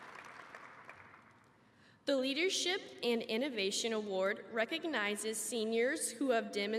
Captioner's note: applause